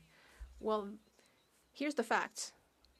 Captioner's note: speaking French